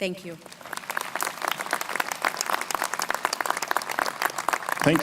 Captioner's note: crowd applauding